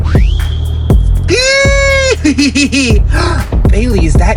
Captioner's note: Jacqueline squeals